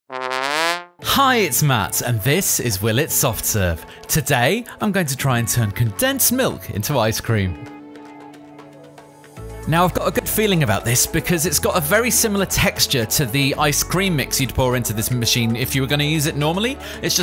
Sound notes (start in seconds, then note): 0.0 horn toots